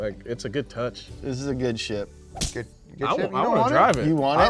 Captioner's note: punch thuds